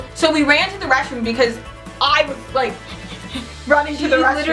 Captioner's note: panting